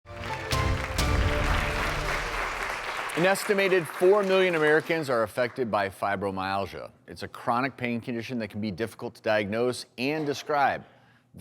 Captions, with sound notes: (upbeat music) (applause) - An estimated four million Americans are affected by fibromyalgia. It's a chronic pain condition that can be difficult to diagnose and describe.